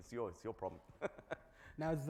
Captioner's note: laughs